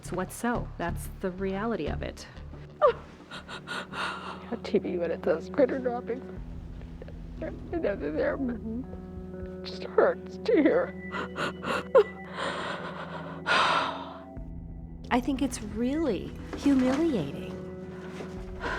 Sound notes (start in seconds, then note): 2.7 sobbing; 9.6 sobbing